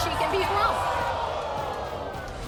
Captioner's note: murmuring